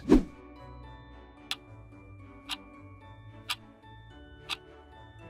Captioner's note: clock ticking